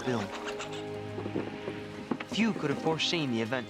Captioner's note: chittering